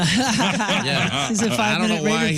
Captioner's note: laughing